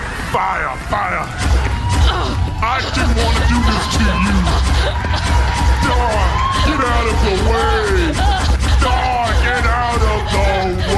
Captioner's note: shouting